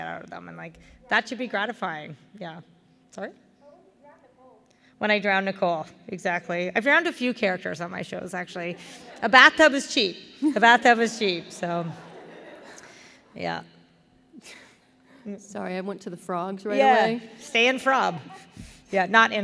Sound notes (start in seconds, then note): 3.2 murmur from audience; 11.2 laughter